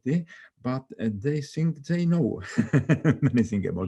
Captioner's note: laughs